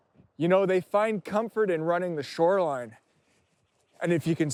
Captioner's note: none